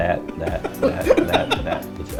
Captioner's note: laughing